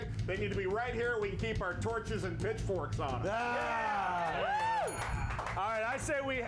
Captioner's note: bell rings